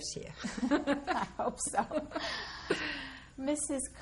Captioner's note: laughter